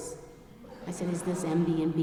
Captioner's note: audience laughing